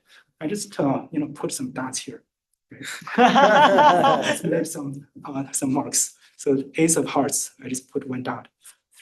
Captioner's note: laughter